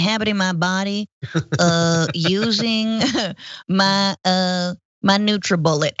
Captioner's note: laugh